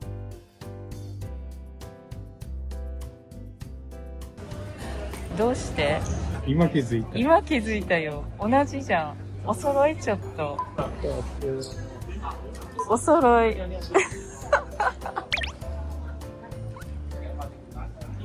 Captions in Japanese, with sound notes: どうして？今気づいた? 今気づいたよ。同じじゃん。お揃い。ちょっと お揃い。 [笑い]